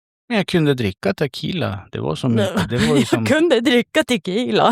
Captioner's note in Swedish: skratt